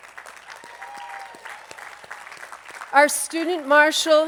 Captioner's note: attendees applauding